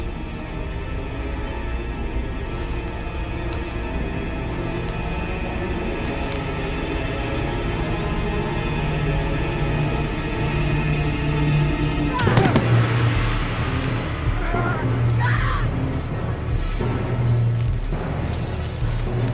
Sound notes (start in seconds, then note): 11.3 Ellie grunts; 13.6 Ellie screams; 13.6 soldier grunts; 15.8 suspenseful music